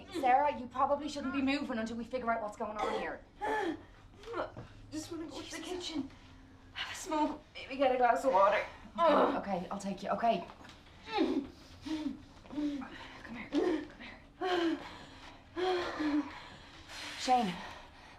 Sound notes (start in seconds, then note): 11.0 Sarah grunts and pants; 14.4 pained exertion